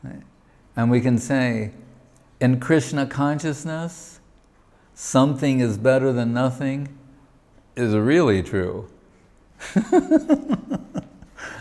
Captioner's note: chuckles